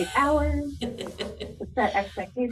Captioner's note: chuckles